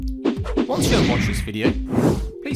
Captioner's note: air whooshing